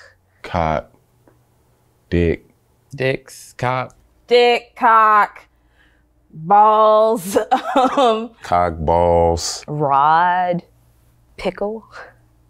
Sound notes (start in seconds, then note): 7.1 laughs